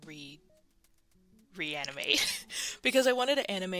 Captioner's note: laughs